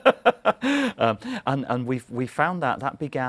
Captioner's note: laughter